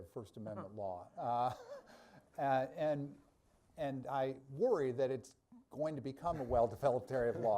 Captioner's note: laughs